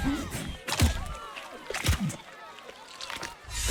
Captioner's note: eating sounds